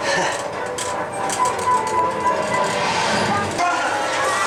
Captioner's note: chuckling; dramatic music